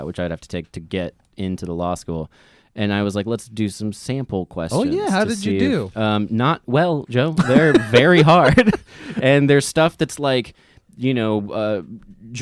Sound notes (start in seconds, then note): 7.4 laughs